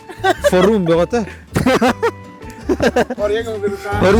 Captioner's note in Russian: смех